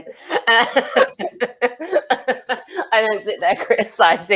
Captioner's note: laugh